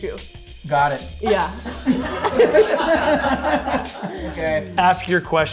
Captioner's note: group laughs